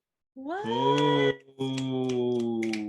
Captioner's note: applause